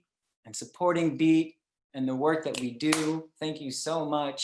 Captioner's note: snap, clap